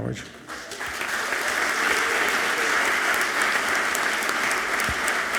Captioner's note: audience clapping loudly